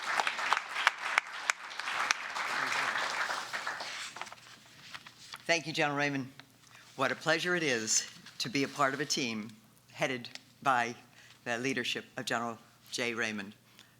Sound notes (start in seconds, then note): 4.1 applause